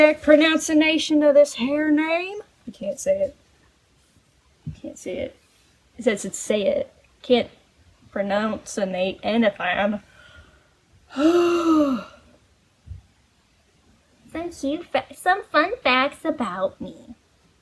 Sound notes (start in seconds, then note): 7.4 southern accent returns; 11.1 heavy sigh; 14.2 squeaky voice